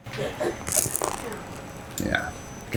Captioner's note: pizza crunches